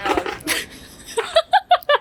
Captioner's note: laughing